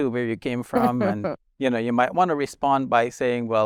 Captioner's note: chuckling